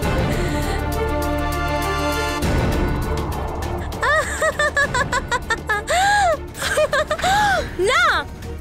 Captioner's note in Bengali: সশব্দ হাসি